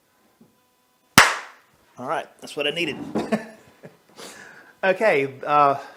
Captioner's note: clap